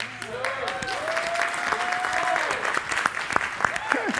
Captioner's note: audience applauding